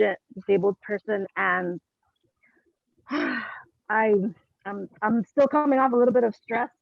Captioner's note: sighs